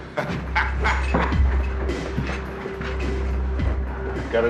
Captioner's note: Justice laughing